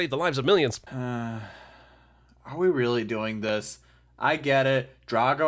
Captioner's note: sigh